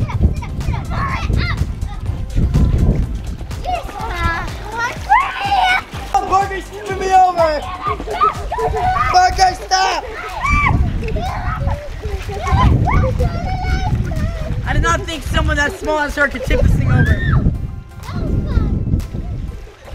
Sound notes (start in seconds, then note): 10.5 shouting